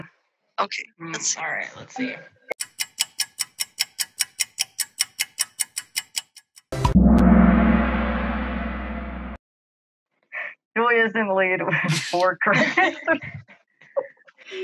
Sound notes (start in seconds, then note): 2.5 clock ticking; 11.8 laughing